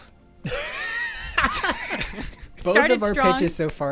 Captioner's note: laughter